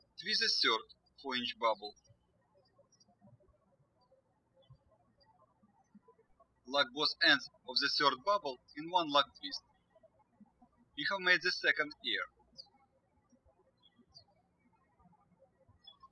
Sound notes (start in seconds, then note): 0.0 birds chirping; 4.0 birds chirping